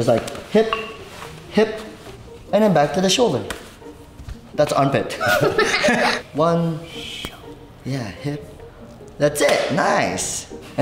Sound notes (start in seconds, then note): 5.1 laughing